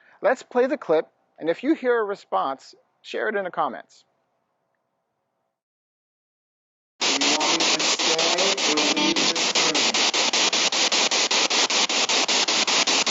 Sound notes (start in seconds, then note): 7.0 static echoing